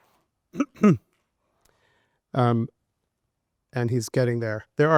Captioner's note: coughing